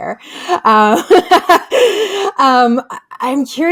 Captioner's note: laughs